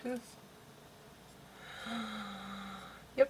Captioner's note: takes a deep breath